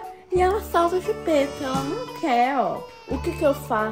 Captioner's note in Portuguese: bebês chorando